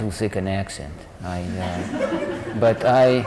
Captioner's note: laughter